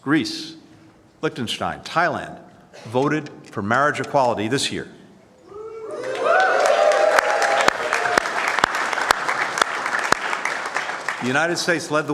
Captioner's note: cheers and applause